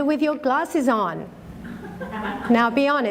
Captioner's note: chuckle